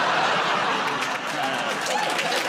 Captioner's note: laughter